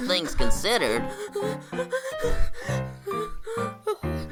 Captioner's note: breathing heavily